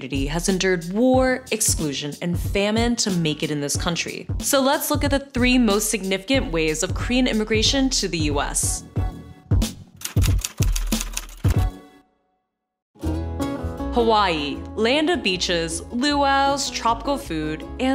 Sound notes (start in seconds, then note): 9.5 upbeat music; 10.0 typewriter clicks; 12.9 idyllic music